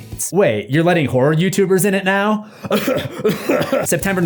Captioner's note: cough cough